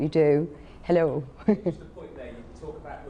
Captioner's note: laughs